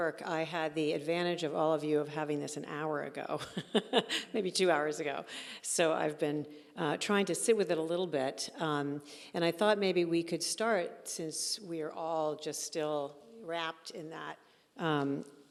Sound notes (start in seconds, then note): 3.5 laughing